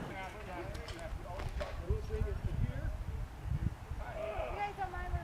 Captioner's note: crowd noise